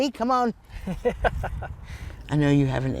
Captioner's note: laughing